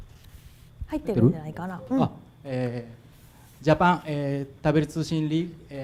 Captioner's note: speaking foreign language